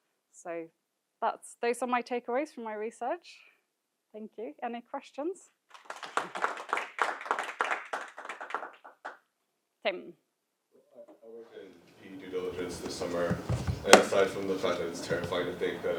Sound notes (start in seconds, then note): 5.7 audience applauding